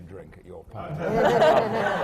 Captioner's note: laughter